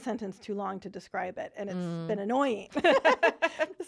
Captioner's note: laughing